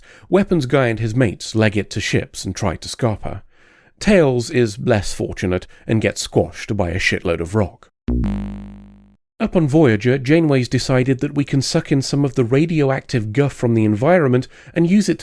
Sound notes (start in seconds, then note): 8.1 Sound Effect: Sonic the Hedgehog death noise